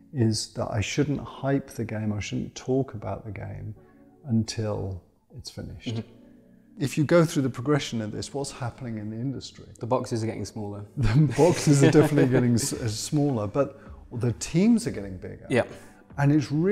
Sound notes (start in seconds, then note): 11.0 laughs